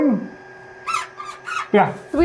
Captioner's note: camera squeaking